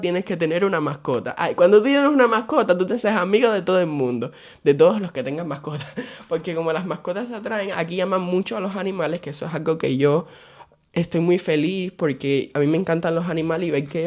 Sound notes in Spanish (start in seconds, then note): 5.8 risas